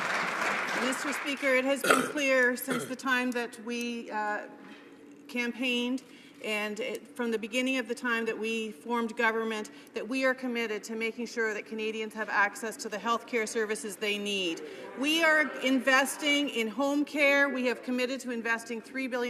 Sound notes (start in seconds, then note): 0.0 some Applause